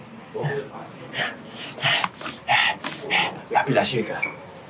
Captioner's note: breathing heavy